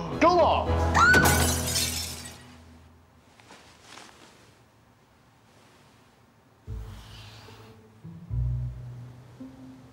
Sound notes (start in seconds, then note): 0.9 Matilda screams; 1.0 glass shatters